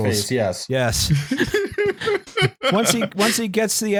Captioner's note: laughter